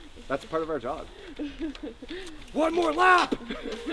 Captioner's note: laughter; laughter